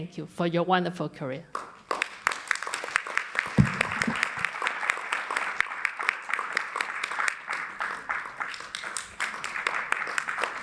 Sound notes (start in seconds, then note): 1.5 applause